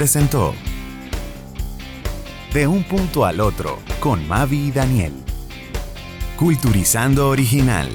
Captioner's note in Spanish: Voice over